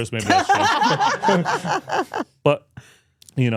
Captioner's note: both laughing